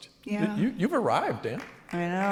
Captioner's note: applause